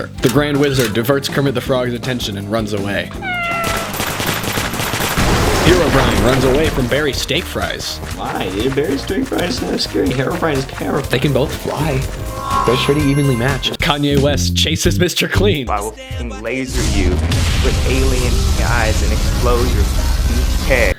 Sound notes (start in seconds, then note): 3.1 mew; 3.6 gunshots